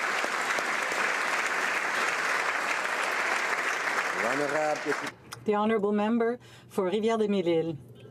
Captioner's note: applause